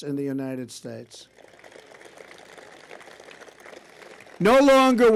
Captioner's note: applause